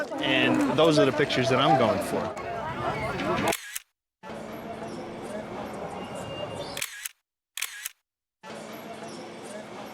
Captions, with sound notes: And those are the pictures that I'm going for. [camera clicking]